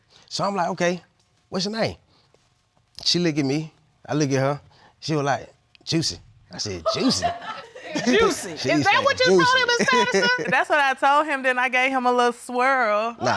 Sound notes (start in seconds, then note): 6.8 audience laughing; 13.1 audience clamoring